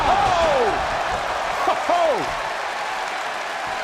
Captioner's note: crowd cheering